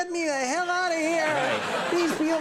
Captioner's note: audience laughing